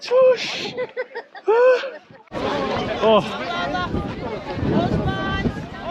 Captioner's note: they all laugh